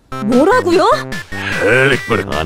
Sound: sigh

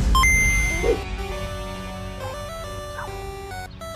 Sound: game audio

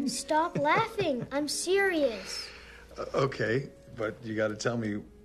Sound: laughs

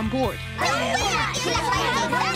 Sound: all screaming

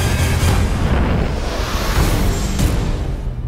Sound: eruption rumbles

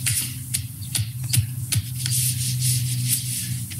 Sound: fist pounding

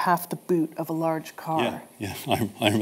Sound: chuckles

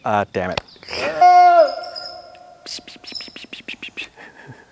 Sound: bird sounds, Camera-man attempting nature sounds

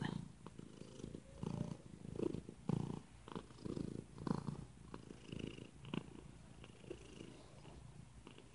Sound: continuous purring

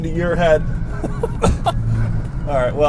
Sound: laughing

